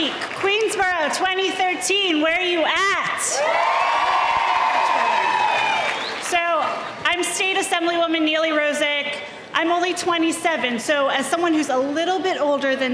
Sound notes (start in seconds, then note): 3.2 loud cheering